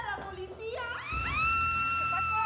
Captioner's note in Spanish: gritos